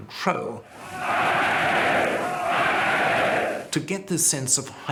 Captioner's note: chanting "Heil"